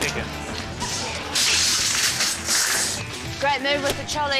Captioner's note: trolley rattles